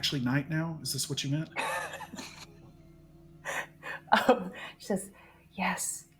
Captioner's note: person chuckling